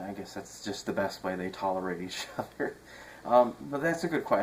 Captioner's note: chuckles